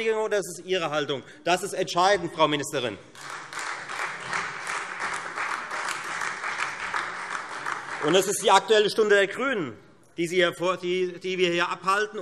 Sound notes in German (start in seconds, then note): 3.1 Beifall